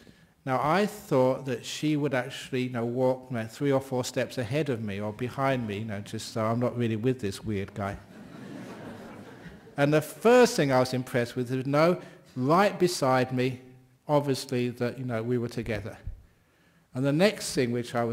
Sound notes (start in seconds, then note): 8.0 laughter